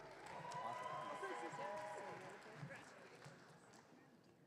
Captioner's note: audience cheering